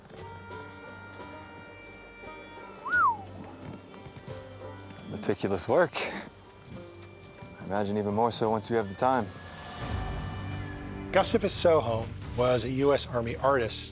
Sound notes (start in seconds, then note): 2.8 whistle